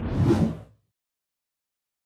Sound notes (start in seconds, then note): 0.0 swooshing